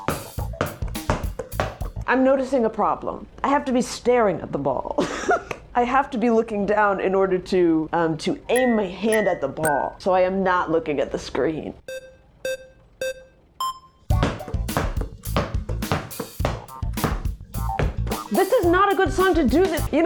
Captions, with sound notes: I'm noticing a problem. I have to be staring at the ball. [laughs] I have to be looking down in order to aim my hand at the ball so I am not looking at the screen. [starting beeps] This is not a good song to do this.